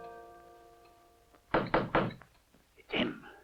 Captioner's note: knocking on door